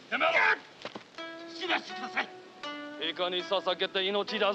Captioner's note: speaking Japanese